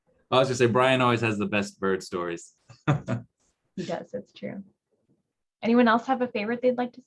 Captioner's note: laughs